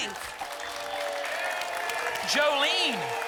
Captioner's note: applause and cheering